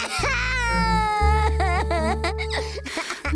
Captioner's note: crying